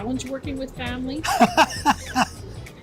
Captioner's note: laughs